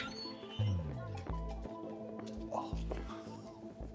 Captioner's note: door squeaks